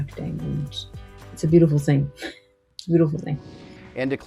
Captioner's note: chuckles